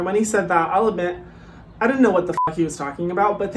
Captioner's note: beeps